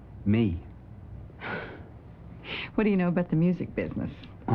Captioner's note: chuckles